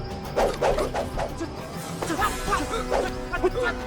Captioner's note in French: les poteaux sifflent; musique tendue et pleine de suspense